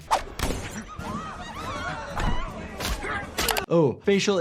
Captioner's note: indistinct background chatter